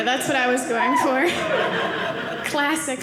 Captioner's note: audience laughing